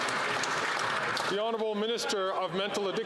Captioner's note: some Applause